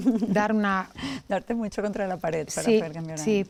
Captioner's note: laughs